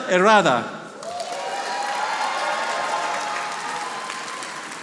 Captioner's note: audience applauding